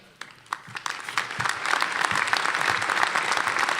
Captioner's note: applause